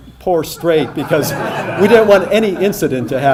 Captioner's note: audience laughing